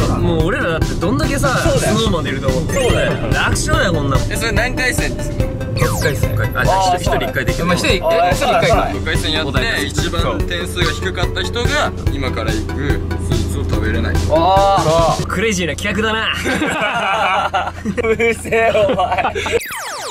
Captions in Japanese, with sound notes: もう俺らだって、どんだけさぁ SnowManでいると思ってんの そうだよ 楽勝だよ、こんなの それは何回戦にする？ ６回戦 じゃあ一人一回できるってことか ６回戦やって、一番点数が低かった人が 今から行く、スイーツを食べれない クレイジーな企画だな （笑い） うるせーお前（笑い）